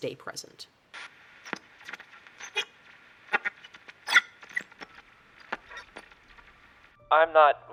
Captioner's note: static